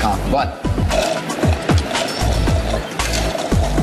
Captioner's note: upbeat music playing; slurping